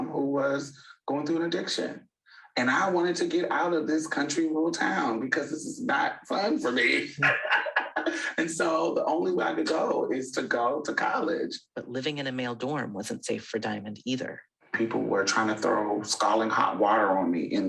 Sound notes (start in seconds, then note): 6.3 laughs